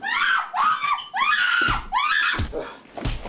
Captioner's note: screaming; punches thudding